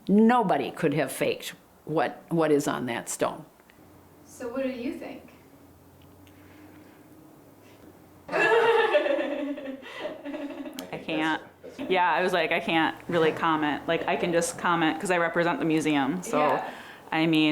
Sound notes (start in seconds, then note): 8.3 laughing